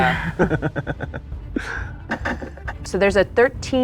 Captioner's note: laughs